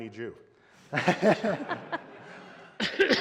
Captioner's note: laughter